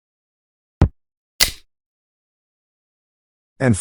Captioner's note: crack